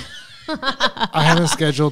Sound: both laughing

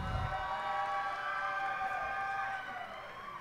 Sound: cheers and applause

